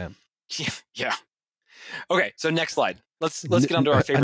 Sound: scoffs

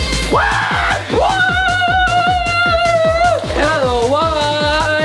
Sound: dance music begins; yelling

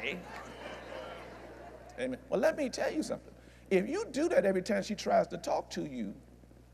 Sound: laughter

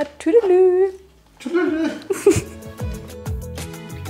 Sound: laughing

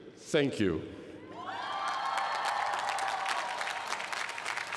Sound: cheering

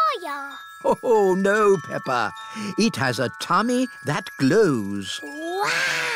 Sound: laughs

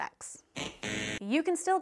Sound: buzzer buzzing

